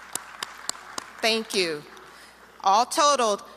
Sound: applause

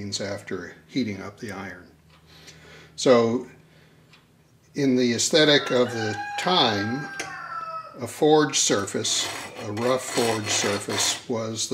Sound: rooster crows again

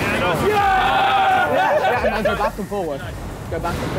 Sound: all cheering

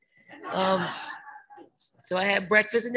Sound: reporters laughing

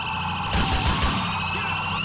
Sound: rapid Gunfire

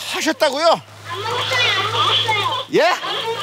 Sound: children in the background

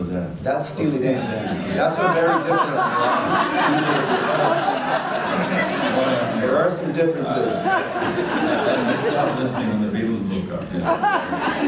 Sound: audience laughter

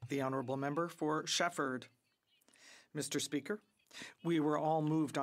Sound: some Applause

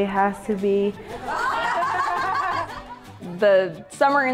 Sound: students laughing

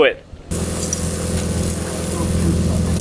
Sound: meat sizzles

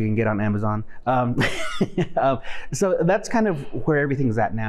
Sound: laughing

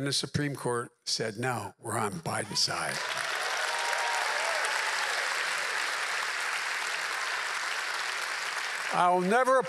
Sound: applause

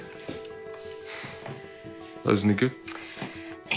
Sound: strike exhales

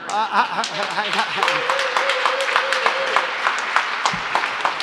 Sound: laughs

